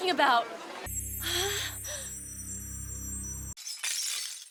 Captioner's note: twinkling glass resonance sound; broken glass shattering